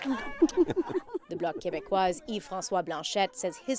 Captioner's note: applause